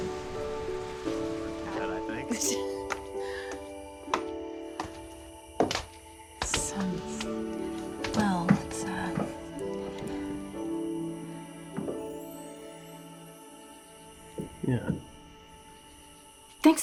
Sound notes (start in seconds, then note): 2.0 chattering; 2.6 footsteps